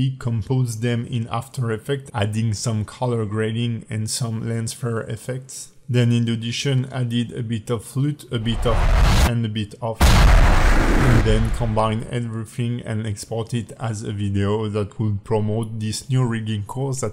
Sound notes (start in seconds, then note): 8.4 whooshing; 10.0 exploding